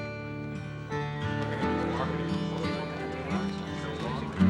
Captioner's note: chattering